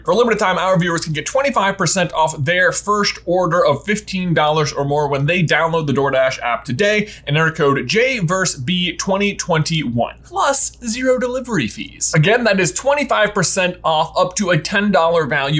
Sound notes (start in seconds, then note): none